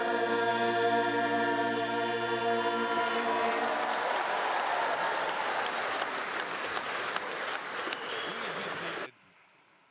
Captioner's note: applause